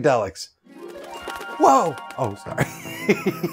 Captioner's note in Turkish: güler